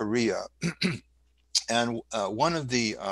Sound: clears throat

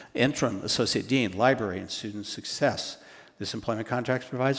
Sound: none

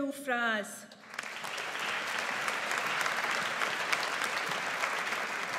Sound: audience applauds

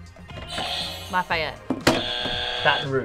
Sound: buzzer rings

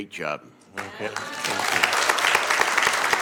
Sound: applause

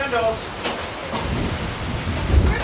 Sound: wind picking up

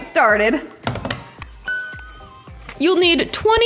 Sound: hands tap; bell dings

